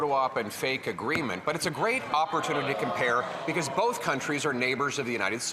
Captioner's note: some Applause